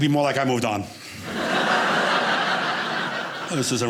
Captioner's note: audience laughing